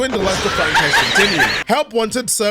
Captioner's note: laughing